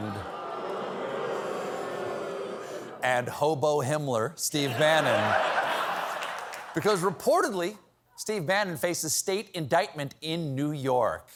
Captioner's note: booing